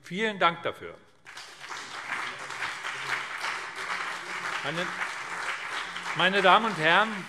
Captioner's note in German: Beifall BÜNDNIS 90/DIE GRÜNEN und CDU